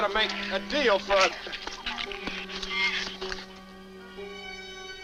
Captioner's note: shrews chatter